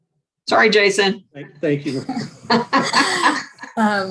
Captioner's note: laughs loudly